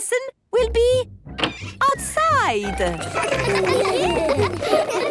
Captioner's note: laughter